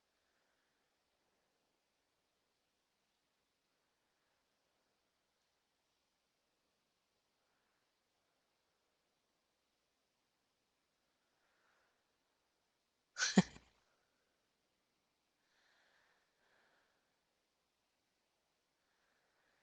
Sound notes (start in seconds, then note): 13.2 laughing